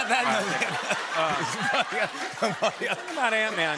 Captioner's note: laughter and applause